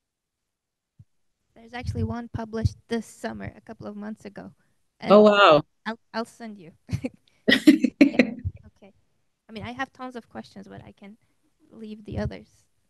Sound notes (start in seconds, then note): 7.5 laughing